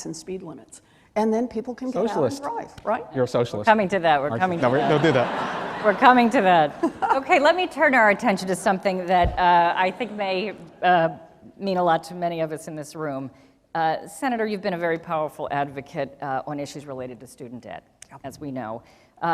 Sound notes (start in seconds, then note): 4.6 laughing